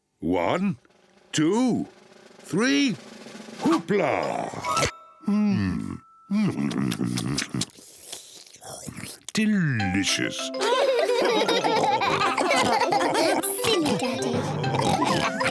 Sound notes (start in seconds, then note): 6.4 slurps; 10.5 all laughing; 15.3 all continue laughing